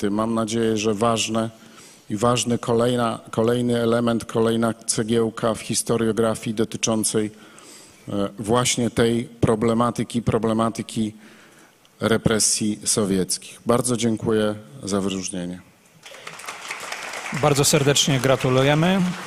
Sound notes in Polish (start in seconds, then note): 16.0 oklaski